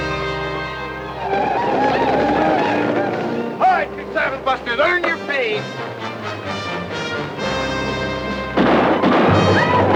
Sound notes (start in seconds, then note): 1.0 Apaches howl; 8.5 guns fire